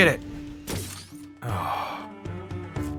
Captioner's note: sigh